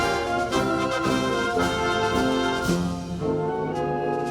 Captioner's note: none